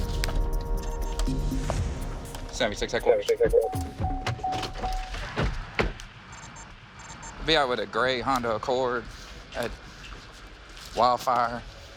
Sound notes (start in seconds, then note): 3.6 car door chiming